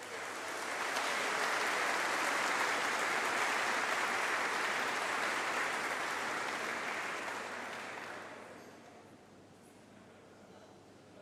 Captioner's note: applause